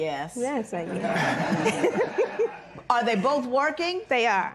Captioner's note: laughter